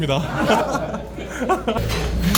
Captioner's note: laughs